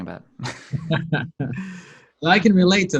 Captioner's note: laughs